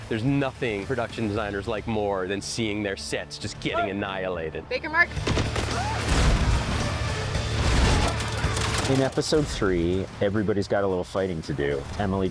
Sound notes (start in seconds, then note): 5.2 gunshots; 5.4 explosions